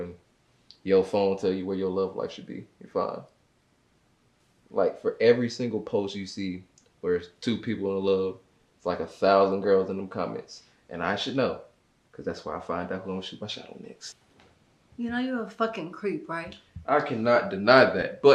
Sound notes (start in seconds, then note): none